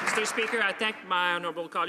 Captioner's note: some Applause